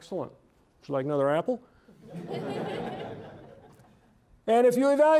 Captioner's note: audience laughing